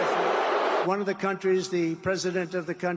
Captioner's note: applause